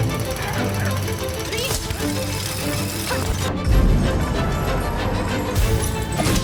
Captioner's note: chain rattling